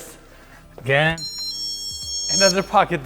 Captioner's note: alarm beeping